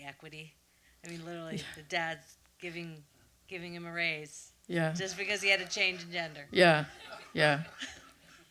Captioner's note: laughter